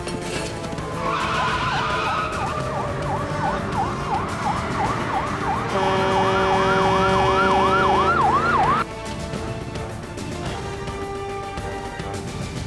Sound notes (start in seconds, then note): 0.8 siren wails; 6.1 truck horn blares